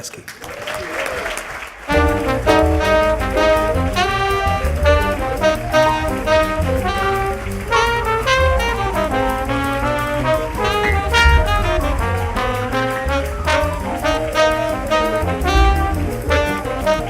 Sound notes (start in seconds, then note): 0.5 clapping and music